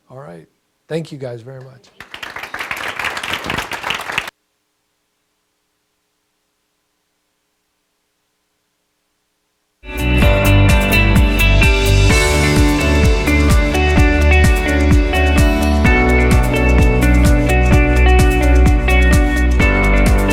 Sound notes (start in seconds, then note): 1.9 audience applause; 10.1 upbeat music